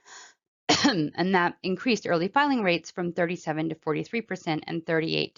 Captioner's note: cough